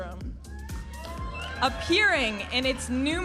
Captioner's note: audience applauding and cheering